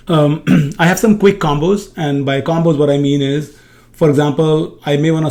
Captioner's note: clears throat